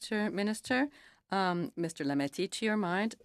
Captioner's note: speaking in French